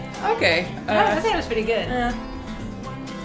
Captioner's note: laughs